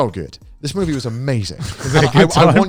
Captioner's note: laughing